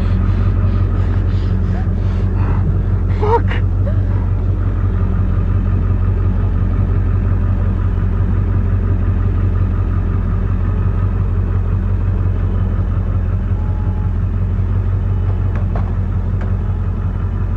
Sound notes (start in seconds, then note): 0.0 muffled breathing; 8.0 engine roars